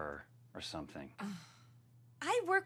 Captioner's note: Sandy sighs